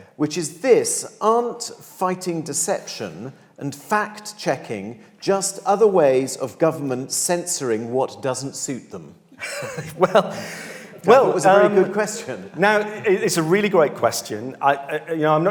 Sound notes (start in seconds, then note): 9.4 laughs